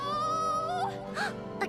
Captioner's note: Lizbeth gasps